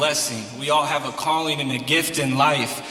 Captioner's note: crowd